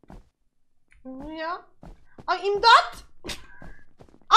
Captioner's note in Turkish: gülerek